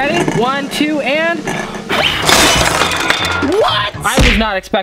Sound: blows

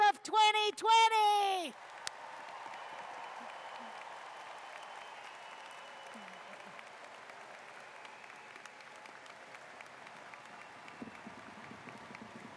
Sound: cheers and Applause

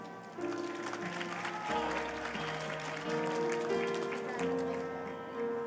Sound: applause

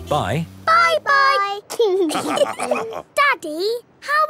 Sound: all laughing

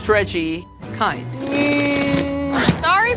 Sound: cheek creaks

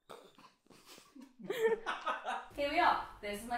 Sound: laughing

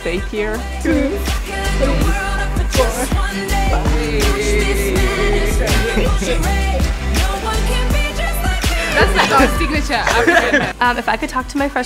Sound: laughing

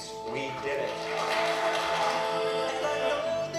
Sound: applause and music playing

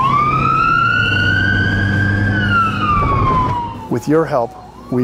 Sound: sirens wailing

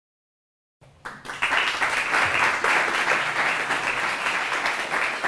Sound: applause

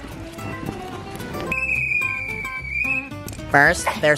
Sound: whistle blows

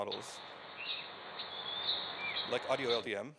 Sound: birds chirping

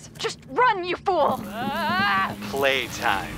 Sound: frightened shouting

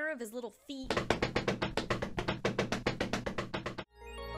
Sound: loud stomping; fantastical music

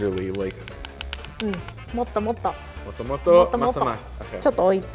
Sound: chopsticks tapping

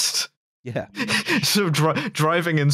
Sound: laughing

